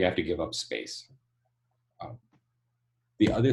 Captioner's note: none